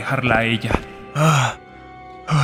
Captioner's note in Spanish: Respiracioens de cansancio